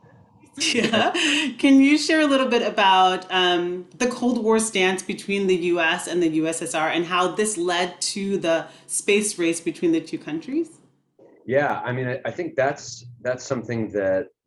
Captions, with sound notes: Yeah. (chuckles) Can you share a little bit about the Cold War stance between the US and the USSR, and how this led to the Space Race between the two countries? - Yeah, I mean, I think that's something that